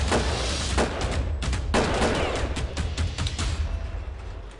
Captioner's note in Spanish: Disparos